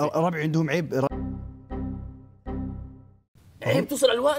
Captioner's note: Windows error sound